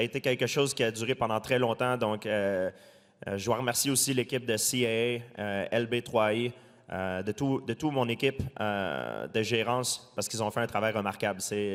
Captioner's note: speaking french